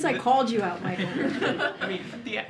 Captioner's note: laughter